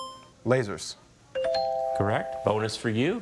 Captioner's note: buzzer chimes; bell chimes